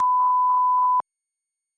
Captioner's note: tone